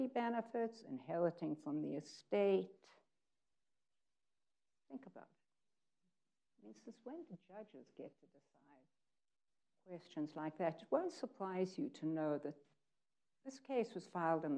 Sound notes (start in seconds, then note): none